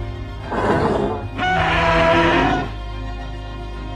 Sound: T-rex roars

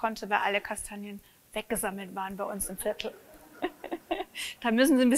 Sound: laughs

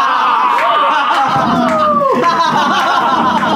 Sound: laughs

